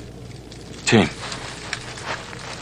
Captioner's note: whispers